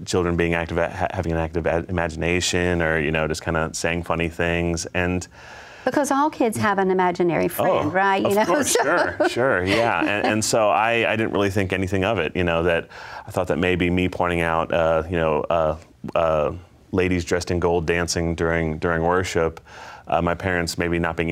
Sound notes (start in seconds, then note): 8.2 laughs